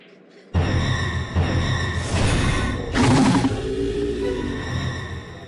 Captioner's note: eerie zombie sound cue